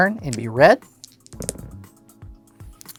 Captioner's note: dice rolling